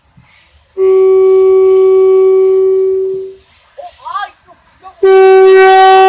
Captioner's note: air Horn; air Horn